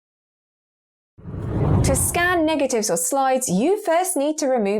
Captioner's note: video effect whooshes